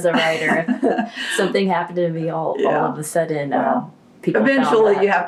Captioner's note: laughter